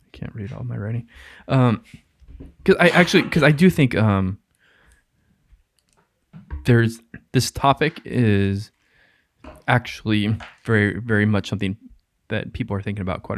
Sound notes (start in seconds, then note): none